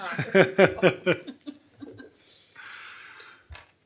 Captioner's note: laughing